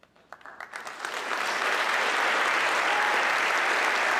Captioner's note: audience clapping